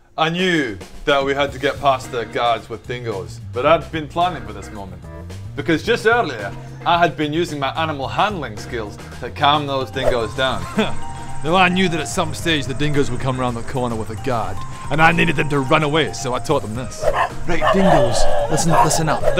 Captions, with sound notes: I knew that we had to get past the guards with dingoes but I'd been planning for this moment because just earlier I had been using my animal handling skills to calm those dingoes down Huh now I knew that at some stage the dingoes would come round the corner with a guard and I needed them to run away so I taught them this *barking* Right, dingoes listen up